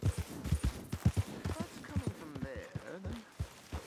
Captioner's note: none